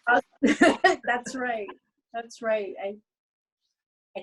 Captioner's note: laughs